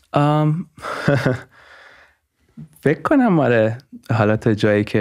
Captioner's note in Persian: خنده